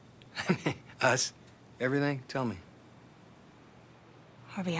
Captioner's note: laughs